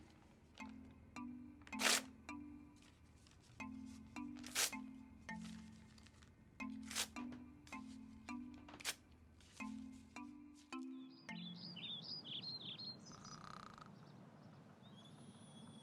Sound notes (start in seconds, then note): 0.3 xylophone music; 10.9 birds chirping